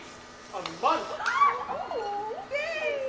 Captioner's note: cheers